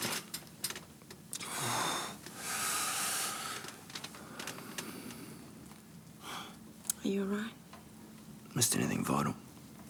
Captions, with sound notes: - It's all right. (John groans and sighs) - Are you all right? - Missed anything vital?